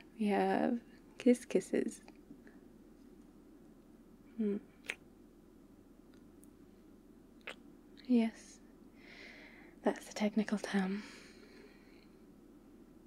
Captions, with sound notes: we have... kiss kisses mmm *kiss* *kiss* yes, that's the technical term